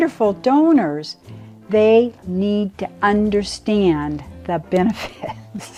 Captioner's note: laughs